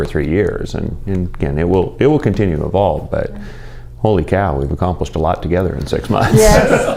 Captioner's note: laughter